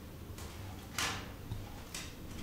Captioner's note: quiet clacking